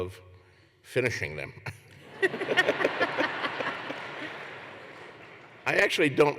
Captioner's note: laughter